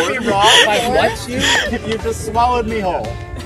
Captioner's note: laughter